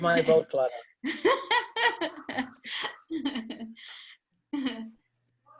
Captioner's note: laughter